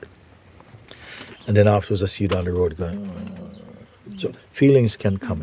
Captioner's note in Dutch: kreunt